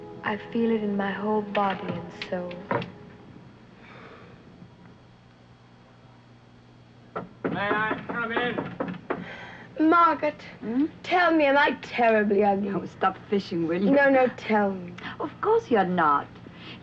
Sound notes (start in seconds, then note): 7.1 loud knocking; 10.6 sighs